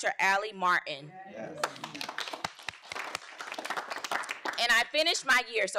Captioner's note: audience applauding